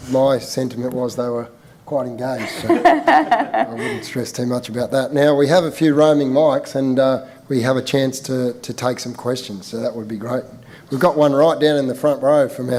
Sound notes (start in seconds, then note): 2.4 laughing